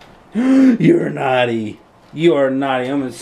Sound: gasp

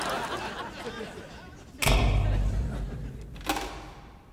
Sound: clicking

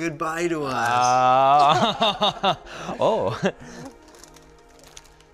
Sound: laughs

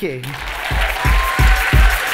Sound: applause

